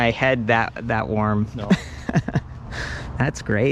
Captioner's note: laughs loudly